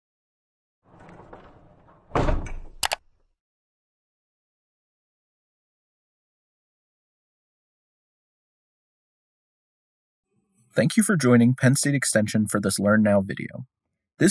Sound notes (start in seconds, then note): 0.8 door slamming; 0.8 door sliding; 2.8 mouse clicking